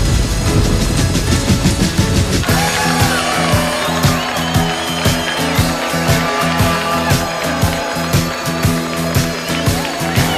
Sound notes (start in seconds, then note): 0.6 rock music; 2.6 all cheering